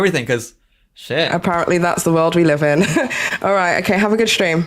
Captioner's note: laughs